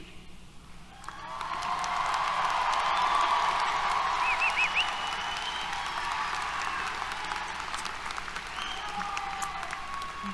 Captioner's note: applause, Cheers